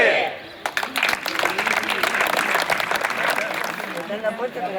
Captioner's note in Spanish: Aplausos